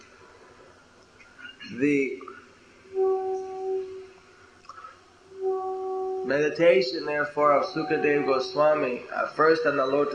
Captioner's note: conch blowing sound